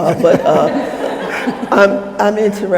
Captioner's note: crowd laughing